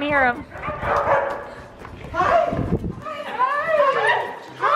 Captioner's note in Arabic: كلاب تنبح